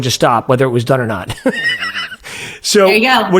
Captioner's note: laughing